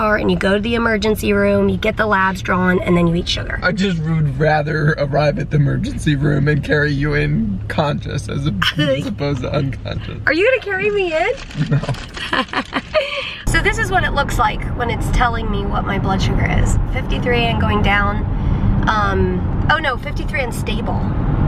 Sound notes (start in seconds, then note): 8.6 laughs; 11.5 laughing; 11.5 both laughing